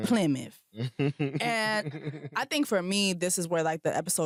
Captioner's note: laughter